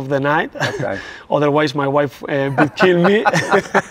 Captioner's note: laughs